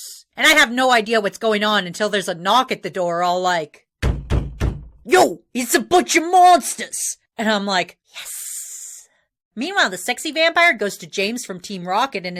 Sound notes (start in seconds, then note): 4.0 banging on door